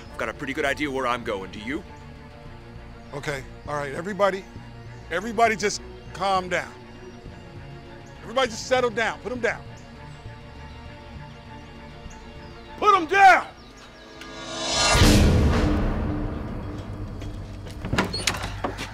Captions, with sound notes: You got a pretty good idea where I'm going, do you? - Okay, all right, everybody, everybody, just calm down, everybody just settle down, put them down. Put them down! (air whooshing)